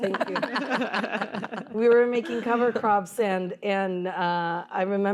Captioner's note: laughter